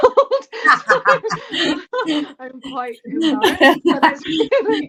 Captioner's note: laughter